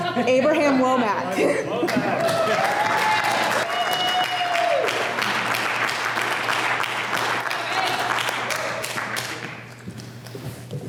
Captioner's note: applause